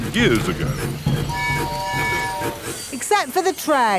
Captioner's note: train tooting